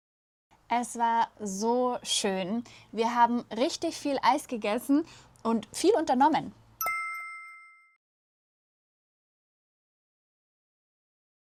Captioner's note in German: glocke